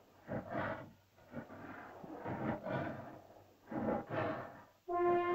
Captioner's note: dinosaur growls; dinosaur breathes heavily; suspenseful music